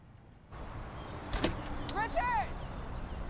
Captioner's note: birds chirping